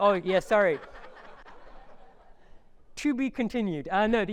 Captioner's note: audience laughing